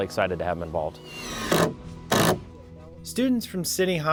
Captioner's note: sound of an impact drill